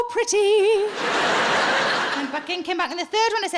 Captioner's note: audience laughing